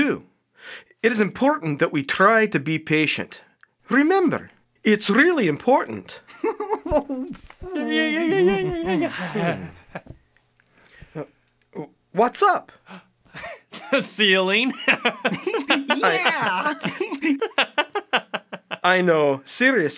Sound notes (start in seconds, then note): 6.4 giggling; 14.7 laughs